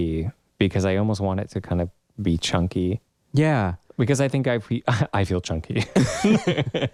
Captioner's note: laugh